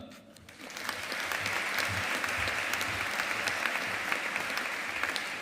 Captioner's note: audience applauding